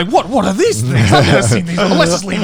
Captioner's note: laughing